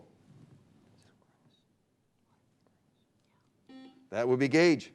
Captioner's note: beep